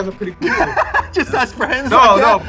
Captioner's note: laughs